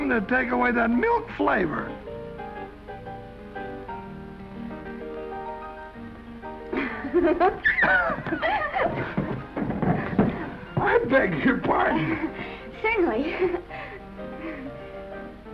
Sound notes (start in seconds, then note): 6.7 Esther laughs; 11.5 Esther chuckles